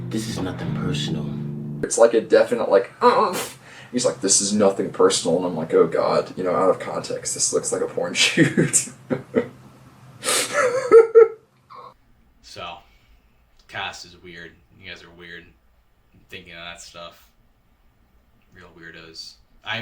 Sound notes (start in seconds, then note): 3.4 whimpering; 8.1 chuckling